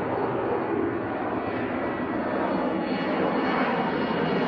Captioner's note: plane engine whirs